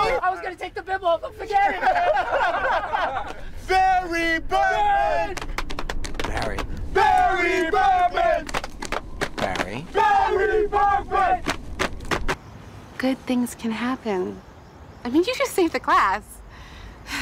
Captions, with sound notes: - I was gonna take the bib off him, forget it! - (laughter) - (chanting) Barry Berkman! Barry Berkman! - Barry? - (chanting) Barry Berkman! - Good things can happen. I mean, you just saved the class!